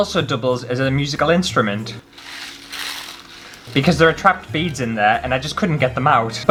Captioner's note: bead Sounds